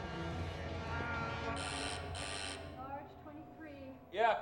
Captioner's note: doorbell buzzing